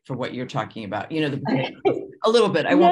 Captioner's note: laughs